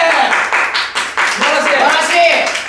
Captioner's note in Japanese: 拍手